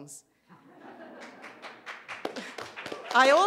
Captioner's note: applause